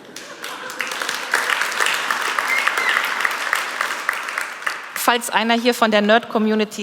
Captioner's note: Applaus